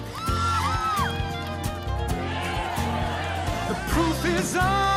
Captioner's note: whooping and hollering